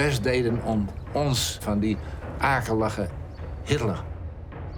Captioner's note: speaking foreign language